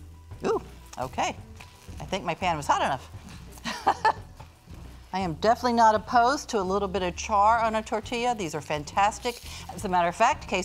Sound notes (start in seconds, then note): 3.6 laughs